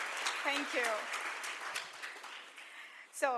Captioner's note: applause